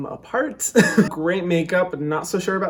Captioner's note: laughing